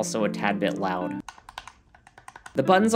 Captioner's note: loud Clicking Noises